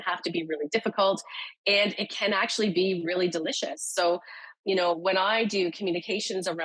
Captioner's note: none